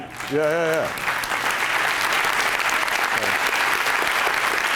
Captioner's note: applause